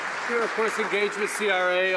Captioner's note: some Applause